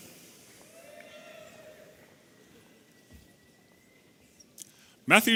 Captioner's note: audience cheering